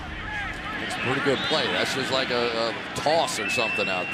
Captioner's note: crowd cheering